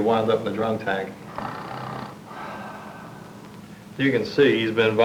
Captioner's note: snoring